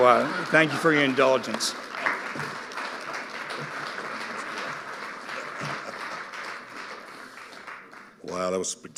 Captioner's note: audience applauding